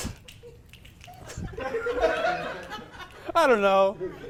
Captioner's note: audience laughs